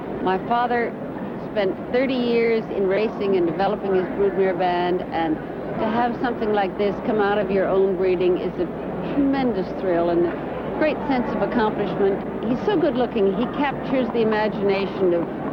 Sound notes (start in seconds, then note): none